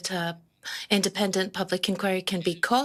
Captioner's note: speaking in French